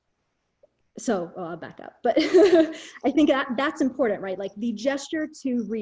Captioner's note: chuckles